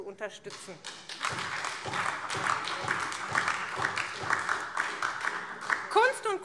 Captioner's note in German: Beifall